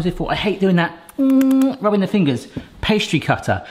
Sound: humming

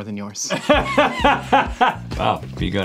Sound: Rhett laughs

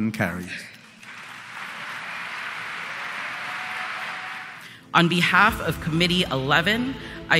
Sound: applause

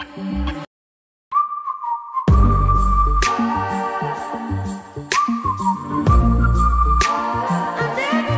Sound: whistling

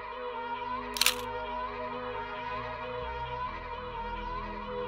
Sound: shutter snaps

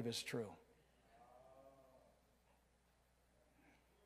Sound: crowd

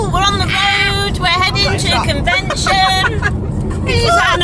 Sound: laughs; squeals

